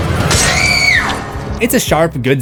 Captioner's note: screams